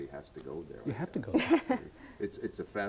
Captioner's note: all chuckling